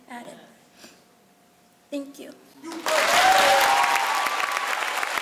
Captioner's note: crowd applauds